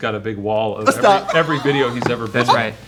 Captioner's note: laughs